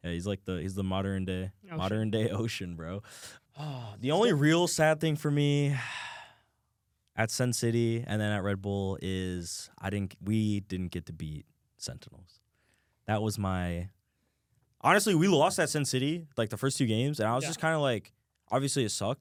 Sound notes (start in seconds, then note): 5.7 sighs